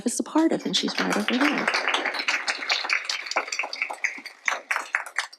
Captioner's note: applause